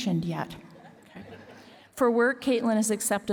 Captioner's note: laughter